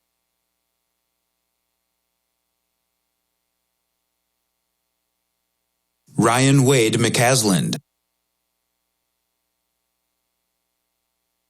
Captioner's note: cheering